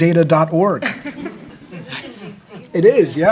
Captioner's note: audience laughing